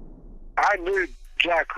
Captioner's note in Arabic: انفجارات البندقية